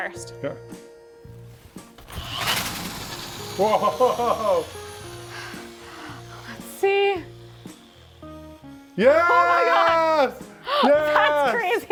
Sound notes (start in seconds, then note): 2.0 power drill whirring; 5.0 power drill whirring